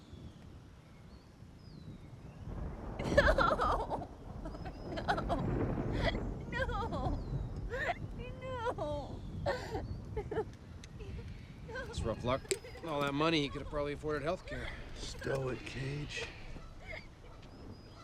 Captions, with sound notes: [Bird chirp] No no no no. [Female laughter] It's rough luck. All that money he could have probably afford at health care. Stow it. Cage.